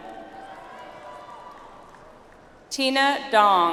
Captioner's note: audience applauds